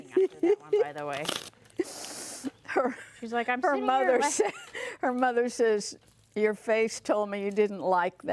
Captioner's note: crackling sound